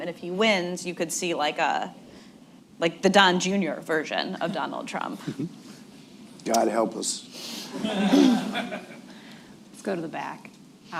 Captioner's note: laughter